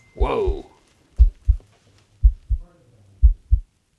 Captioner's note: loud heartbeat